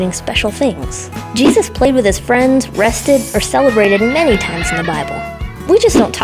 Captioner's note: party horns